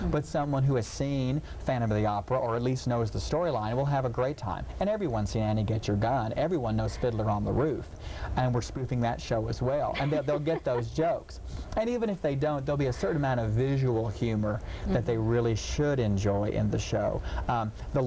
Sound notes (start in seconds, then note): 9.8 laughing